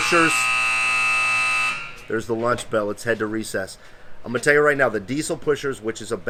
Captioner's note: buzzer sounds